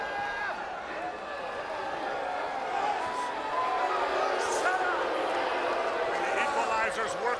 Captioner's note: crowd chatter